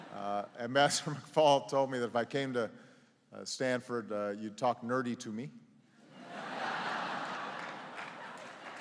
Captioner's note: laughter